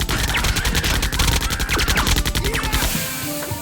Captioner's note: automatic gunfire; splintering wood; crazy laughing; steam hisses